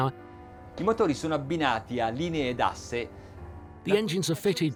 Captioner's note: speaking in a foreign language